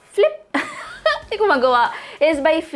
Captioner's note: chuckles